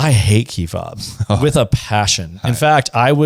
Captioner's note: laughs